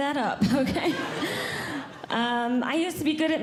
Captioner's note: audience Laughing